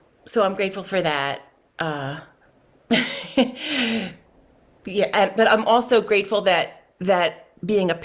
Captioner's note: laughs